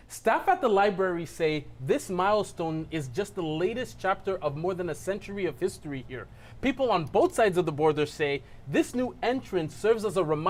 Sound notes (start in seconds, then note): none